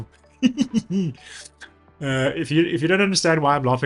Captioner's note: laughs